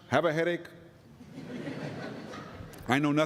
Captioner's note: laughter